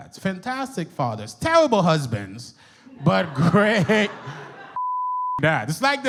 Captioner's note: beep